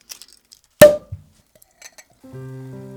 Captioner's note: cork pops